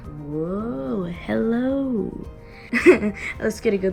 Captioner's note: laughs